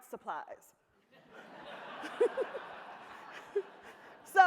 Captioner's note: audience laughs